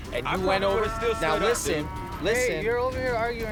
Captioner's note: cows mooing